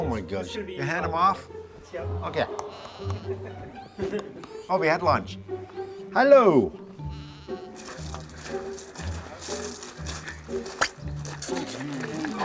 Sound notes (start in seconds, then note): 6.8 goat bleating; 7.7 heavy footsteps on grovel; 12.2 metallic door cringing